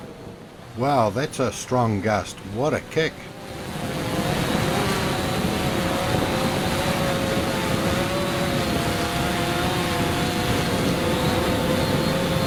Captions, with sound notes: Wow that's a strong gust. What a kick! (wind blowing)